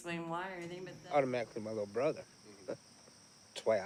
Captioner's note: laughs